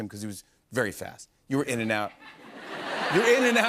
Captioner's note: laughter